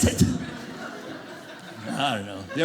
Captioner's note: audience laughing